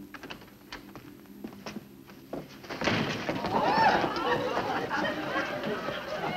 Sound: door closes; laughter

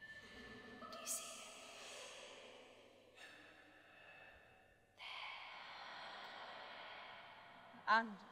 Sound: faint whispers of spirits talking to Agnes

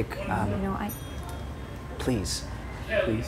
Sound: bell rings

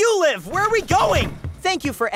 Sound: door clunking

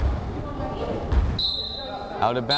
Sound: whistle blows

